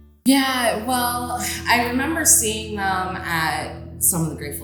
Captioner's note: gongs